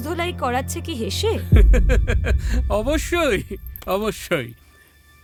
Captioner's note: laughs